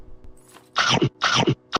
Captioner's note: chomp chomp cho